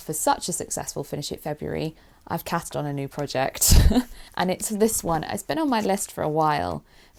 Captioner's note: laughs